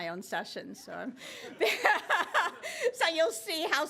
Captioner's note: laughter